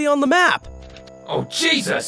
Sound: paper rustling

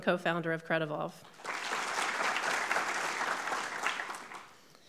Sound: audience clapping

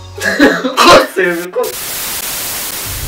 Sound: starts sobbing

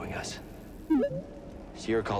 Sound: boop-beep

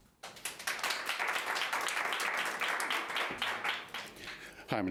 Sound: audience applauding

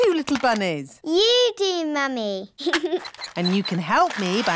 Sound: giggles

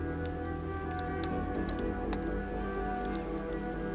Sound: lock clicking

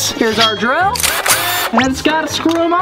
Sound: drilling sound

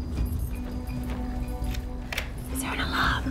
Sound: keys jingle; door unlocks

